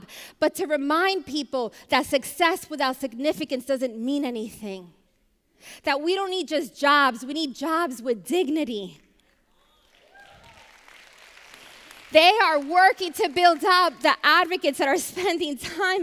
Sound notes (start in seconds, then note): 9.8 applause